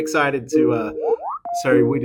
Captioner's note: computer chiming